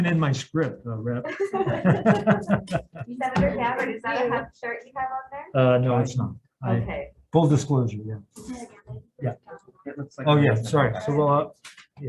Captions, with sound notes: Not even in my script, Rep. (laughing) - Senator Gabbard, do you have the starting time up there? - No, it's not. - Okay. - Full disclosure. Yeah. Oh yeah. Sorry.